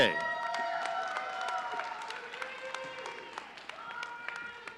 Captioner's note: audience cheering